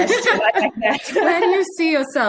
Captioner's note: both laughing